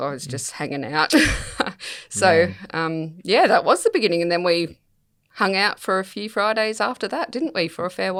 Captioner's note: laughs